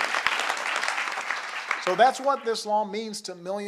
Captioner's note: applause